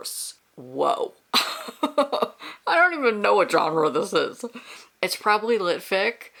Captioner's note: laughs